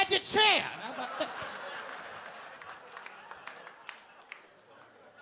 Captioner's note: audience laughing